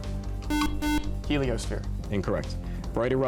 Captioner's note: buzzer